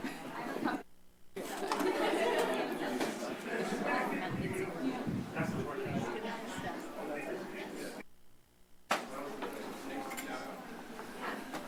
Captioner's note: indistinct background chatter